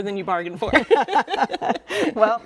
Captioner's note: both laughing